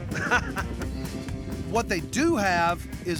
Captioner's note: chuckling